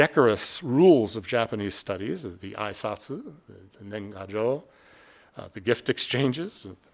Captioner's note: speaking Japanese